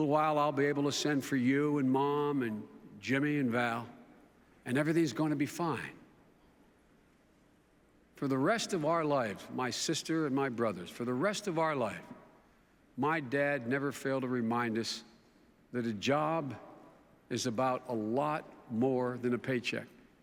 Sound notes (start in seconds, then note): none